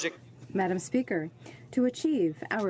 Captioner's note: speaking French